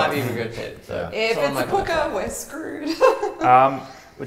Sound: nervous laugh

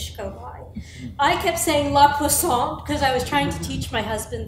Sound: foreign language

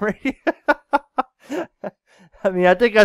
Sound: laughing

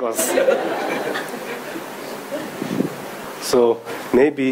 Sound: audience laughing

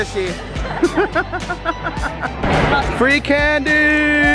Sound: laughing

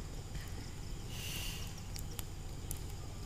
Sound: sighs

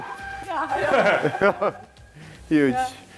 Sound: laughing

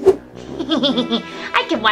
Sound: Romeo chuckling

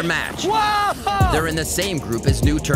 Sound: casters cheering

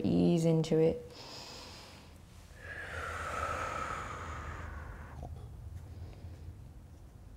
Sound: deep breathing

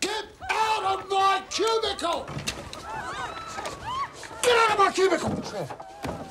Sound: panicked screaming

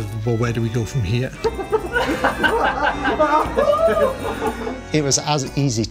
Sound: laughter

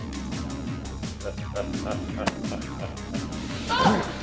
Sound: mrsa cackles evilly

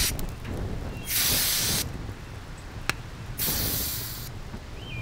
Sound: can sprays; fire roars

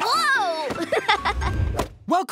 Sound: laughing

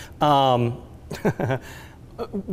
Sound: laughs

